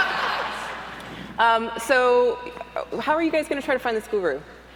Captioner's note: laugher